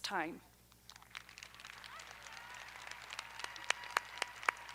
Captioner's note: audience applauding